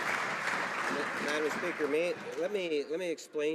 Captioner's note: some Applause